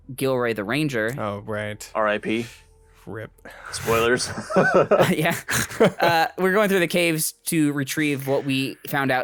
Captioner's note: laughs